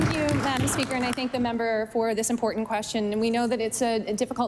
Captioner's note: applause